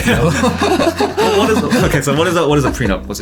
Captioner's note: all laughing